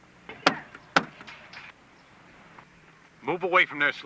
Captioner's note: knocks on machine